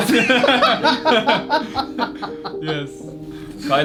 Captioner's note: laughing